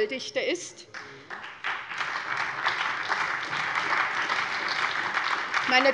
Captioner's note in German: Beifall bei der SPD